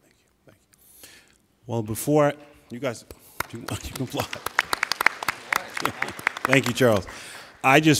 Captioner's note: applauding